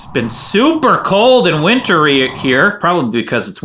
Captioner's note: wind blowing